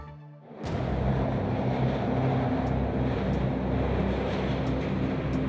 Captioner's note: cars rumbling overhead